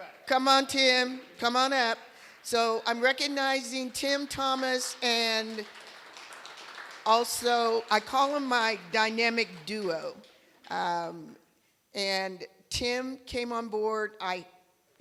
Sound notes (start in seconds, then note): 3.8 applause